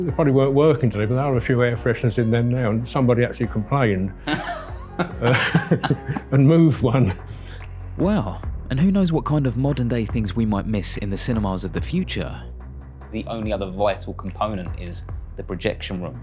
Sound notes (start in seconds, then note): 4.2 laughs